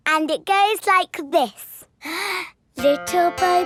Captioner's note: inhales